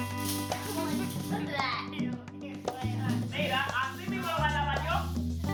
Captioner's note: Ríe; laughs